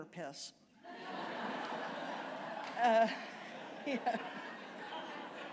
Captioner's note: laughter